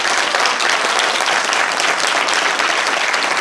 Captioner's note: applause